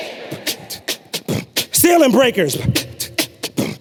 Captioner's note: beatboxing